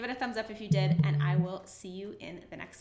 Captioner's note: alert chimes